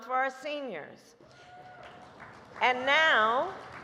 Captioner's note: applause